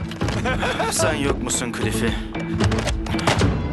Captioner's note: laughs